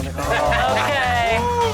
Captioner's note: lalaugughthterer